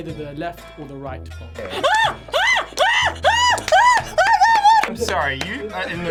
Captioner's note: screaming